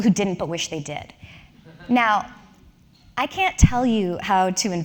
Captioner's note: laugh